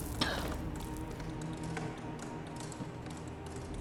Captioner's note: Crystal coughs